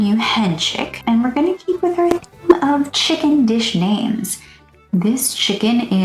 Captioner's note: rude microphone clipped squeaky voice